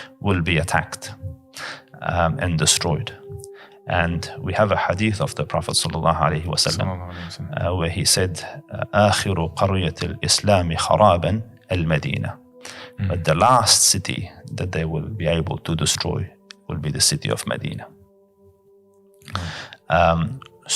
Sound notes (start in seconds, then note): 10.8 Arabic